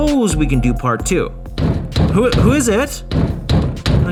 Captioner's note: more knocking; knocking at the door